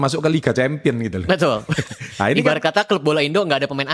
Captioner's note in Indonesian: tertawa